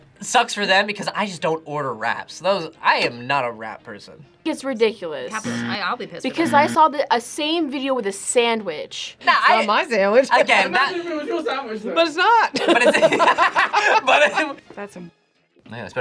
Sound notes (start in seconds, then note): 5.4 buzzer rings; 10.2 laughs; 12.6 laughs